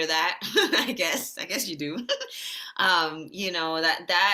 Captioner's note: chuckles